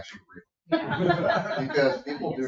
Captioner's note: people laugh